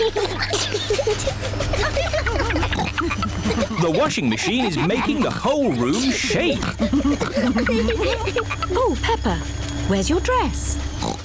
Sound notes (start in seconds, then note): 0.0 giggling; 0.9 rumbling; 11.0 oinks